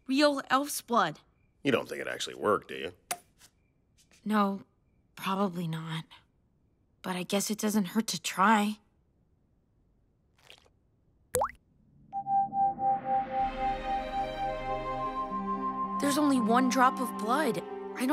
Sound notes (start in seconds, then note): 11.6 blood pings; 11.6 gem hums; 13.8 ethereal music